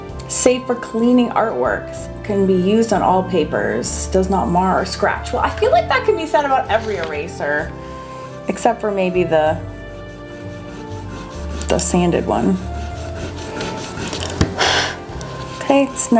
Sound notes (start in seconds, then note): 13.3 eraser rubbing; 14.7 blows